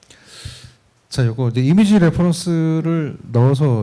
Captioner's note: speaking korean